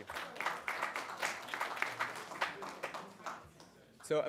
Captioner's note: applause